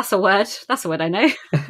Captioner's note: laughs